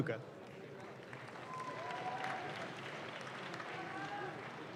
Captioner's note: audience claps